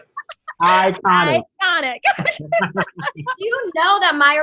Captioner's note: laughs